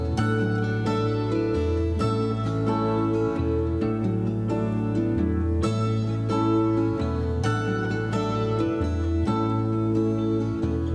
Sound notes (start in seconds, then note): none